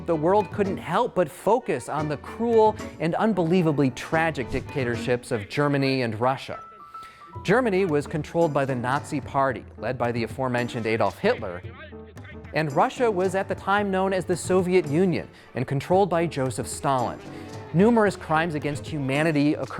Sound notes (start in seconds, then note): 11.8 Adolph speaking German